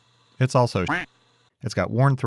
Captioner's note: quack